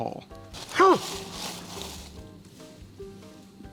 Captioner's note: dog barking